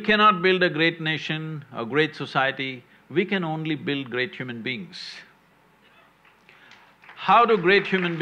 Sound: applause

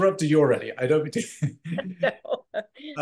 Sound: laughs

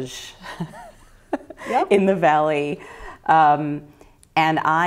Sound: laughter

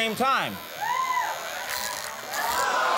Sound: razor buzzing; audience cheers; audience gasps

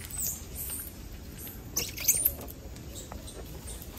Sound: monkeys chattering

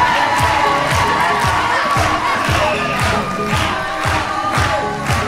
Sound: audience cheering

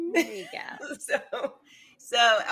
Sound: laughs

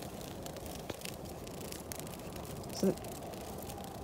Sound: fluttering continues

